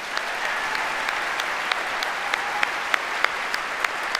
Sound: audience applauds

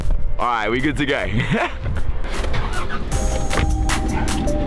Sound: relaxing electronic music; laughs; music intensifies

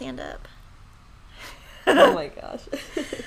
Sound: laughing

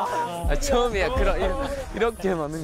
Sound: excited

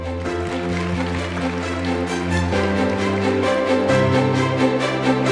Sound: attendees clapping; uplifting music

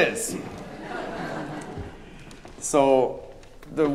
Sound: audience laughing

